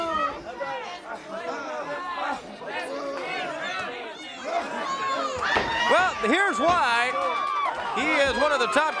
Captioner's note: crowd chatter